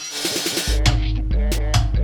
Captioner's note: drill roars; upbeat music; hammer thuds